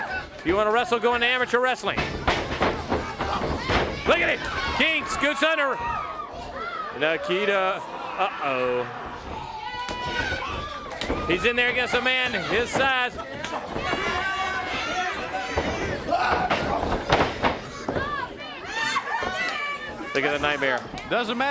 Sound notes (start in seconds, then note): 1.9 crowd cheering; 3.8 crowd chatter; 8.6 crowd chatter